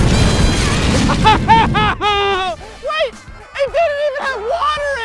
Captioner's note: sobbing